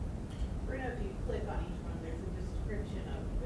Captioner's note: voiceover